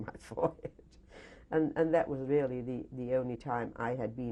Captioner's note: laughs